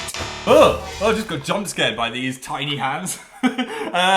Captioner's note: laughs